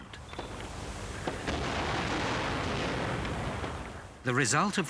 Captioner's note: guns firing